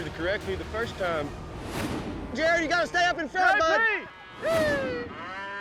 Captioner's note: overlapping yells